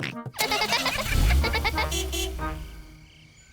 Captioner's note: horn toots; giggling